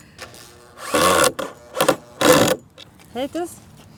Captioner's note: rattling